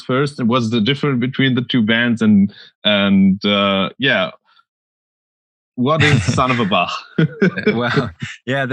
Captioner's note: laughs